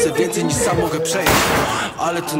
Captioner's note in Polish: ninja sounds